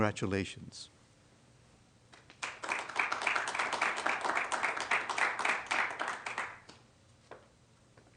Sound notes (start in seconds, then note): 2.2 applause